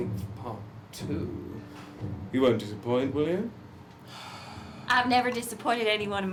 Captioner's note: sighs